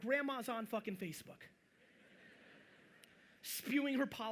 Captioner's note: audience chuckling